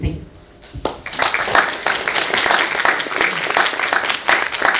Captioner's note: audience applauds